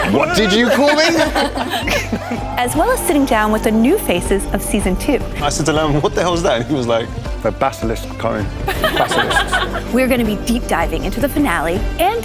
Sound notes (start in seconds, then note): 8.6 laughter